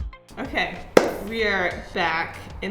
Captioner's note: hands clapping